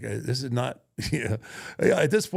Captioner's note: laughs